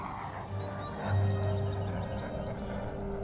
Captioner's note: jets roaring in distance